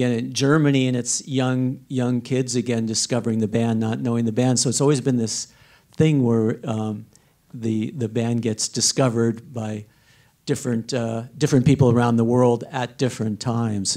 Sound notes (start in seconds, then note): none